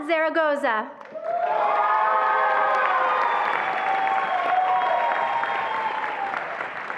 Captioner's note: attendees applauding and cheering